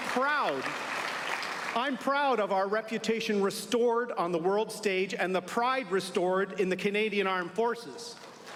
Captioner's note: applause